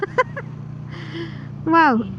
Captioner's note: laughs